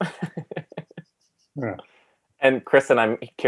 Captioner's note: laughing